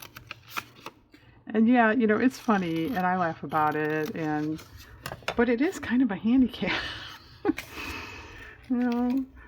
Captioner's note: laughs